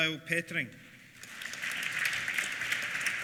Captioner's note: applause